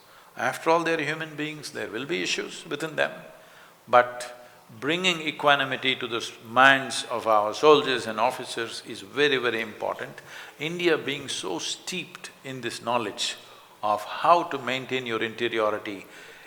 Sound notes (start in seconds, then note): none